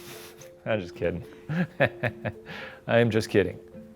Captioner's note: laughs